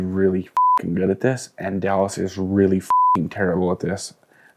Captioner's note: beep; beep